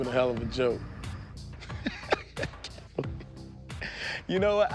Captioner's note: laughs